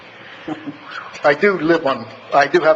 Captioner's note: laughs